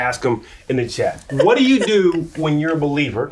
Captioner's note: laughs